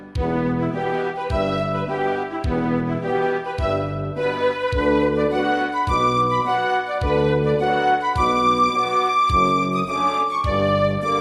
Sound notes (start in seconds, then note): 9.1 horn